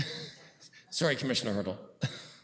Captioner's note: chuckles